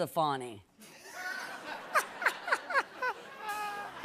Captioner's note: laughter